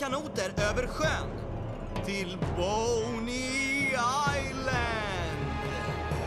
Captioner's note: spooky voice